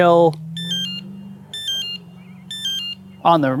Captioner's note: unlock sound 1; unlock sound 2; unlock sound 3